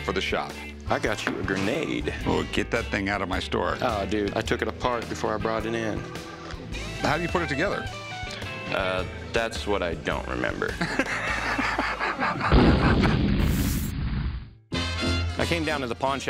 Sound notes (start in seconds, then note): 10.7 laughs; 12.4 explosion